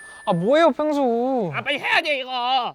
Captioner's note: grumbling